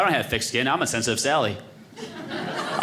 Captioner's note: audience laughing